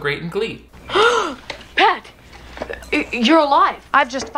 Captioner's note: gasps